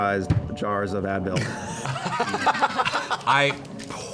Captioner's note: laughter